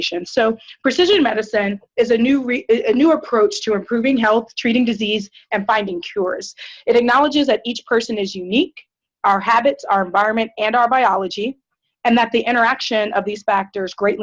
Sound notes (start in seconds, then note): none